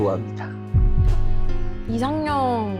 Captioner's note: heartbeat sound